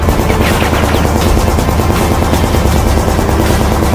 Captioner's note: gunshots firing